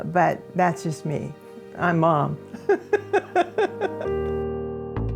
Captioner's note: laughs